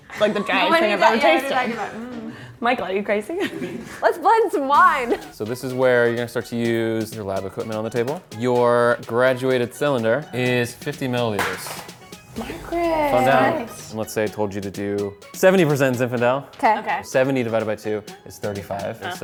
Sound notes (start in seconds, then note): 11.3 object clattering